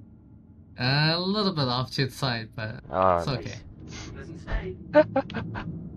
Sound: on the radio

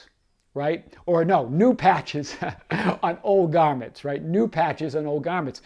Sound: laughs

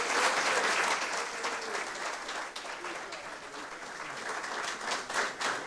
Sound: audience cheers and applause

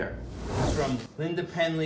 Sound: air whooshing

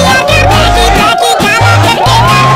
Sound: door opens

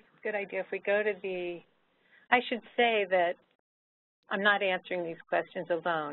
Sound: someone whispering to Barbara

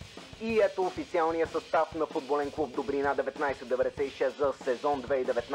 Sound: distorted narration

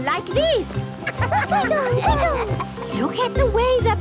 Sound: laughter

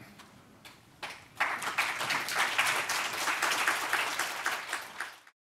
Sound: applause

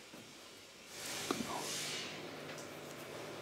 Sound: whispers

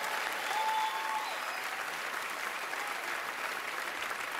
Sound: cheering, applause

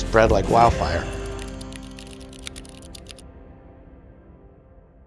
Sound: keyboard clacking

